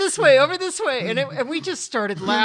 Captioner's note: chuckles